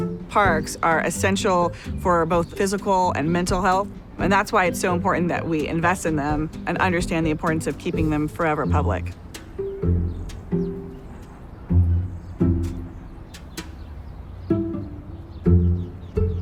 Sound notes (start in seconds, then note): 0.0 gentle rhythmic music; 9.6 birds chirping; 9.6 gentle rhythmic music